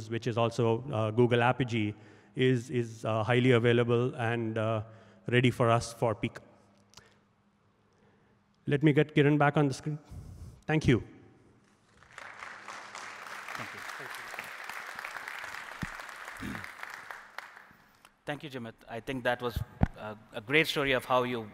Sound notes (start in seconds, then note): 11.8 applause